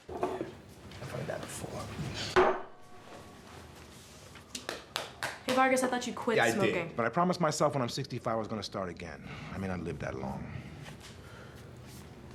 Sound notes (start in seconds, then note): 2.4 coffee cup clatters; 4.7 cigarettes smacking